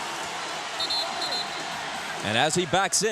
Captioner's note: whistle blows